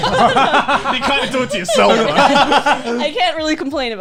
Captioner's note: laughing